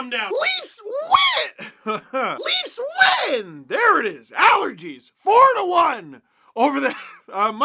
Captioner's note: laugh